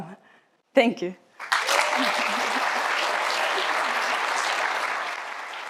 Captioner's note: applause